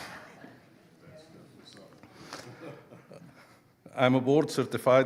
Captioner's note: audience laughing; speaking quietly